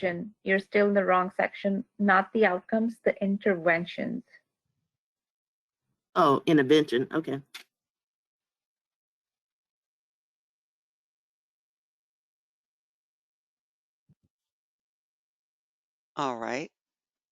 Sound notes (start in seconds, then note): 9.0 8 seconds pause